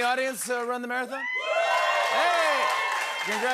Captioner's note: cheering and applause